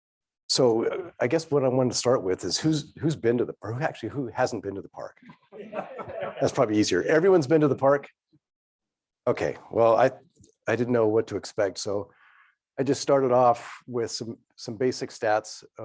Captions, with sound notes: So I guess what I wanted to start with is, actually who hasn't been to the park. (audience laughing) That's probably easier. Everyone's been to the park. Okay. Well, I didn't know what to expect, so I just started off with some basic stats